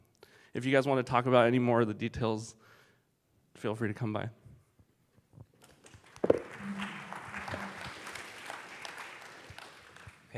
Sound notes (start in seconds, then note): 5.6 applause